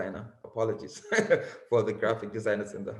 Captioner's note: laughs